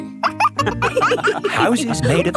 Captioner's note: wolves laughing